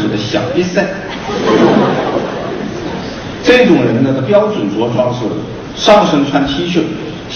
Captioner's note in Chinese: 众人笑声